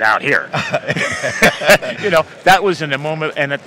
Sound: laughing

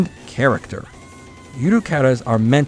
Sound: trophy sound!

